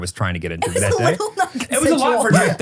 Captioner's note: laughing